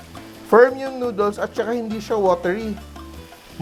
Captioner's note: sizzle